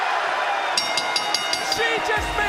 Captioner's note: bell rings